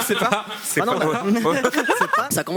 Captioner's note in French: rires